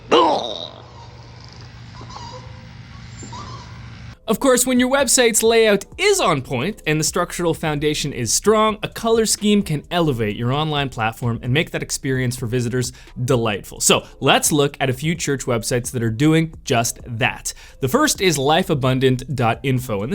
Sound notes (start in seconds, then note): 0.0 groans; 0.8 car turntable squeaks